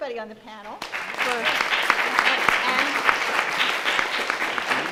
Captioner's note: audience applauds